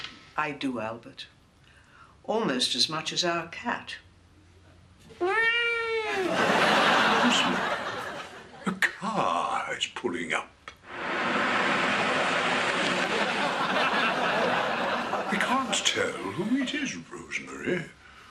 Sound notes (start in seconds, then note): 5.2 unconvincing meow; 10.9 sound effect of car approaching